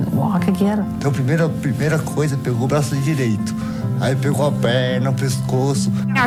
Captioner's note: speaking foreign language